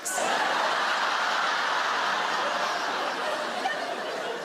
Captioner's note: audience laughing